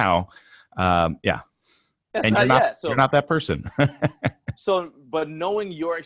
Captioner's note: laughs